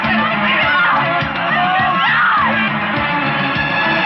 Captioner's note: yelling